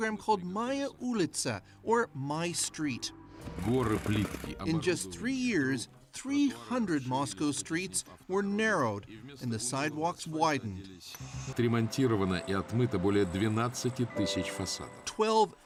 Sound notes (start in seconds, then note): 8.0 speaking French